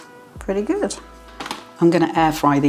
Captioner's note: slap